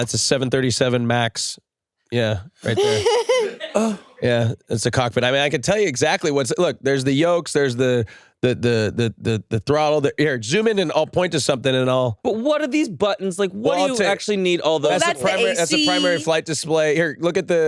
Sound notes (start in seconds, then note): 2.6 laughs